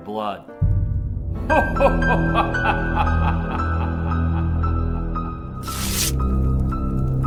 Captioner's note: ominous music; Santa laughing evilly